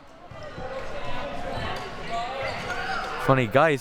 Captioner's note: audience chattering and yelling